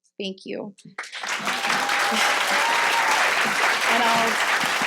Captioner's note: audience applauding